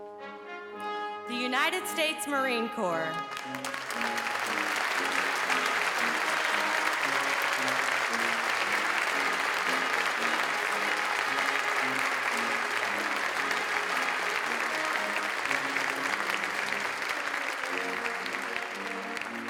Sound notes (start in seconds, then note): 3.2 applause